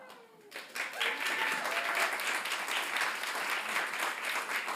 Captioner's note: audience applauding